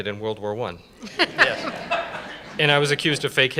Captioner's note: laughter